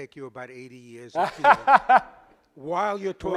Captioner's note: laughter drowns out speaker